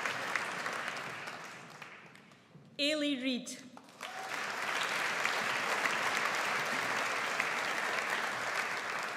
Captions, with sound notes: Eilidh Reid. (AUDIENCE APPLAUDS)